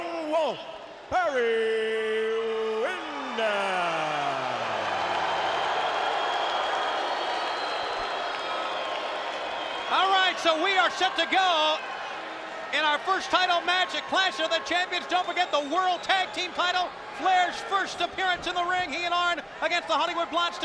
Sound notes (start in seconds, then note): 4.6 crowd cheering